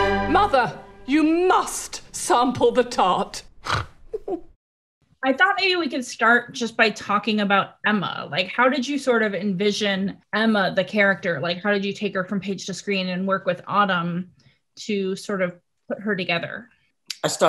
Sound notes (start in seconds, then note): 0.0 lively orchestral music; 3.6 snort